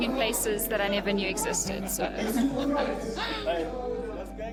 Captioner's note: laughs